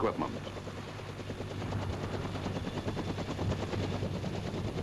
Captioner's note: helicopter chopping